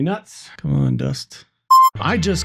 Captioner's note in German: Piep